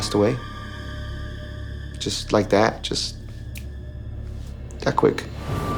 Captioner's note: snaps